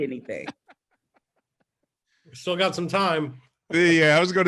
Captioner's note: laughing